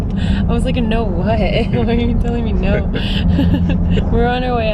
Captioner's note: laughs